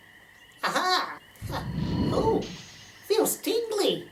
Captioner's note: 'Powering up' SFX